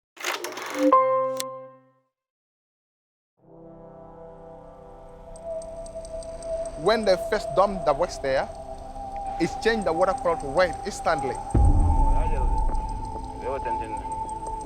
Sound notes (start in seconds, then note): 0.3 graphics sound effect